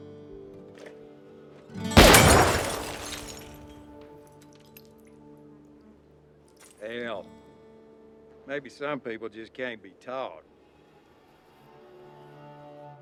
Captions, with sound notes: ( gunshot ) Hell, maybe some people just can't be taught.